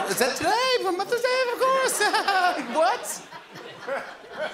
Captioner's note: laughs nervously